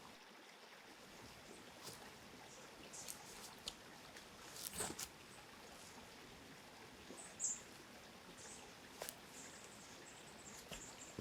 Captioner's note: birds continuing